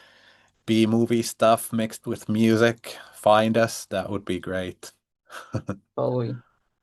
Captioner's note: chuckles